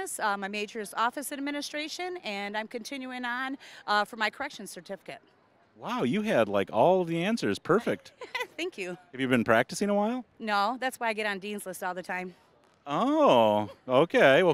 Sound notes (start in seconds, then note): 7.8 laughing